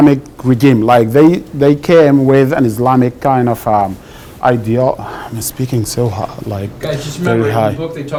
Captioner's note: sighs